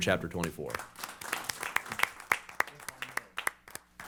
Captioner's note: applause